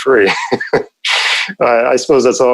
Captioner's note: laughs